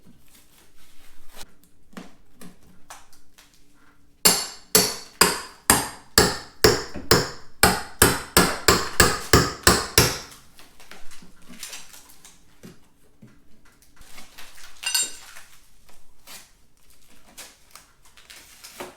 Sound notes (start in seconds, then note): 8.2 hammering noise